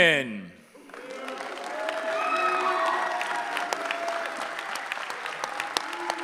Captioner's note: cheering